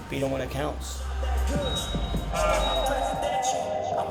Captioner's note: timer beeps